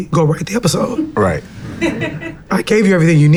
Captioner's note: laughs